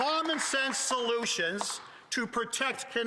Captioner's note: applause